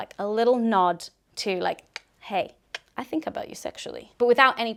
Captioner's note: clicks mouth